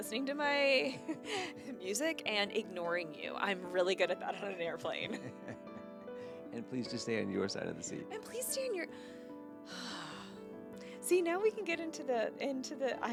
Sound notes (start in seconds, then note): 4.3 laughing; 9.7 sighing